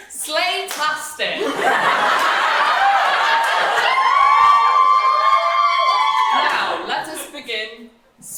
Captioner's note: audience cheering